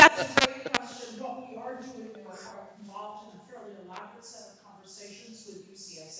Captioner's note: audio cutting out